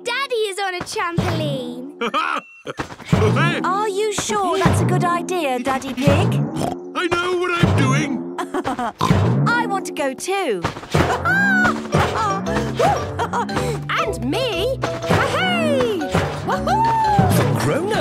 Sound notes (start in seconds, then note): 1.9 laughs; 6.5 snorts; 8.3 laughs; 11.0 laughs